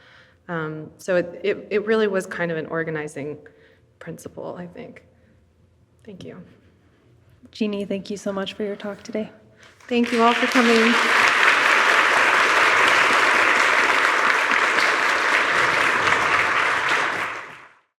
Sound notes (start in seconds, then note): 12.0 audience applauds